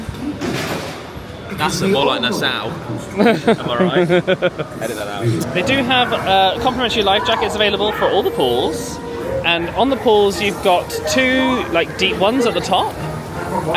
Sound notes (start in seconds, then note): 3.1 laughs